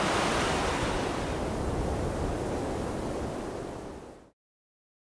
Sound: waves crashing & seagulls; wind

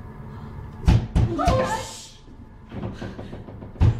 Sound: knocking

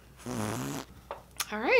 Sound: blows raspberry

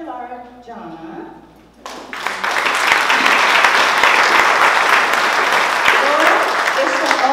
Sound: applause

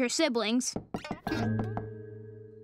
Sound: knocking

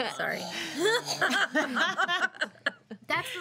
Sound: girls laughing

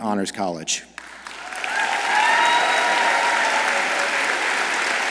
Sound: audience applauds

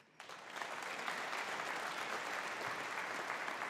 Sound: audience applauding

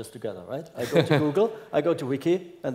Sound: laugh

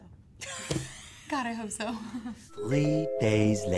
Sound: laughing

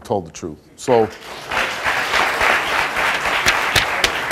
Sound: audience applauding

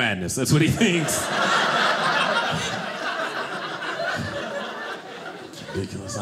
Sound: audience laughing

